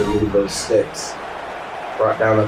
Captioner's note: crowd Noises